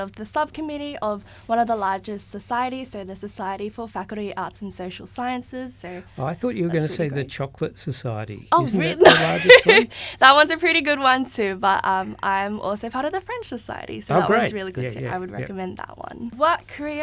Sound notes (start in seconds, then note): 8.7 laughter